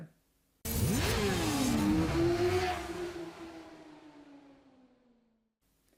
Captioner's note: motorcycle engines roaring